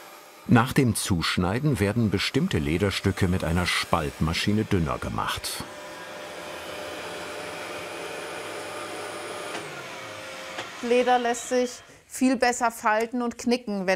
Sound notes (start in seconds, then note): 5.9 whirring; 9.9 whirring stops